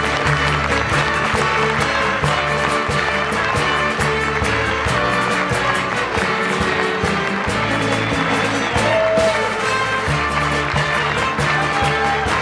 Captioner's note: applause continues